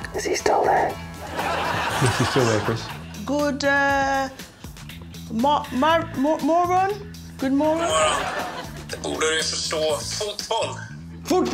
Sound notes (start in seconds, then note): 5.6 speaking Swedish